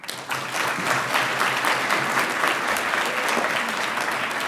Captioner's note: audience applauding